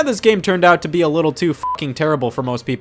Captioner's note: beep